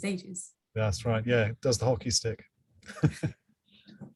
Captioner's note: laughs